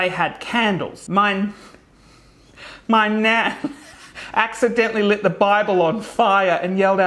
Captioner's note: laughing